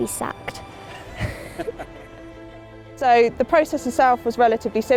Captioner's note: laughs